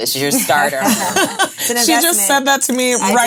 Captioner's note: ladies laughing